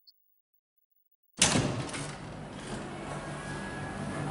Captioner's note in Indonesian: Suara Buka Pintu